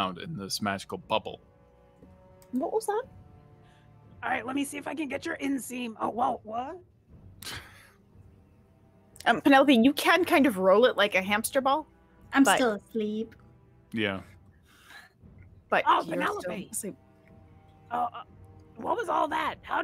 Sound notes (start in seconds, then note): 7.7 laughs